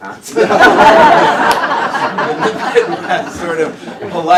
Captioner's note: laughter